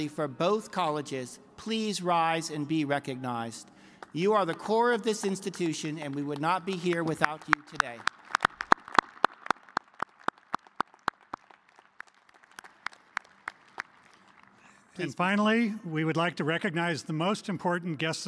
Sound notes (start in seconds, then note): 8.3 applause